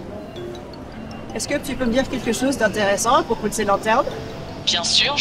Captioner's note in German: Person 1 auf Französisch